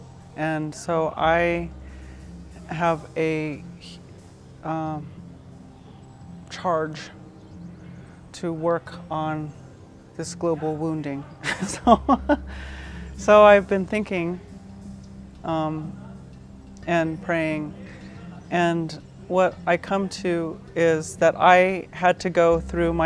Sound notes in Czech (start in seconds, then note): 11.4 směje se